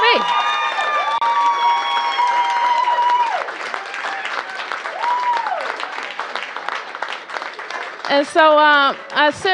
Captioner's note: cheers and applause